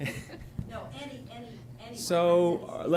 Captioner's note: laughter